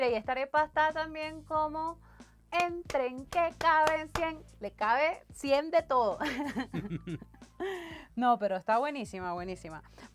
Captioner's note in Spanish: risas